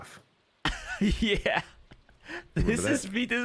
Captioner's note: laughs